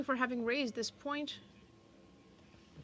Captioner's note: speaking French